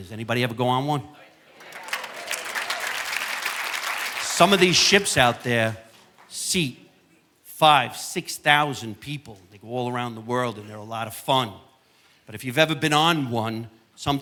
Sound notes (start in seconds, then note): 3.2 audience applauding